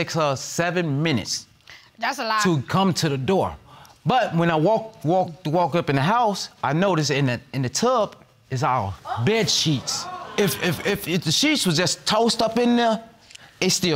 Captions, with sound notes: It takes her seven minutes to come to the door. That's a lie. But when I walk, walk, walk up in the house, I noticed that in the tub, is our bed sheets. (AUDIENCE EXCLAIMING) (STAMMERING) If the sheets were just tossed up in there,